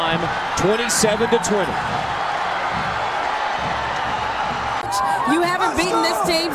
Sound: crowd cheering

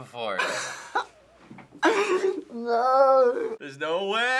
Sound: laughing

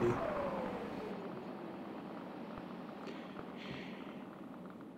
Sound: sound of engines winding down

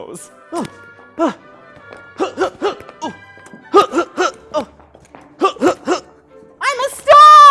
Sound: punching noises

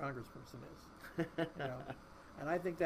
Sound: laughing

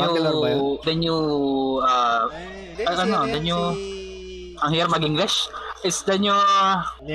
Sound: struggling english noises

